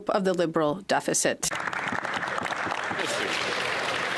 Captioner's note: applause